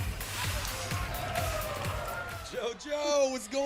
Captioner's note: cheers and applause